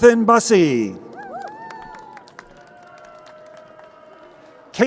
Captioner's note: crowd cheering